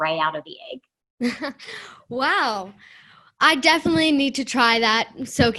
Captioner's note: laughter